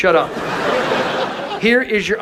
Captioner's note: audience laughs